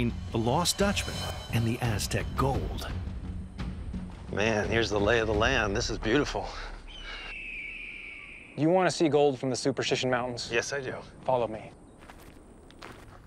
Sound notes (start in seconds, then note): 7.0 hawk screeching